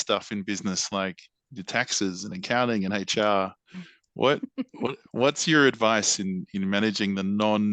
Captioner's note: laughs